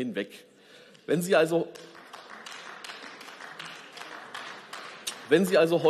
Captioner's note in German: Beifall